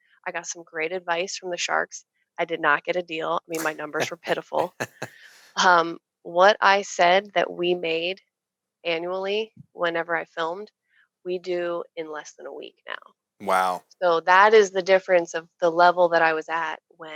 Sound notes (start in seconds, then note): 3.5 laughing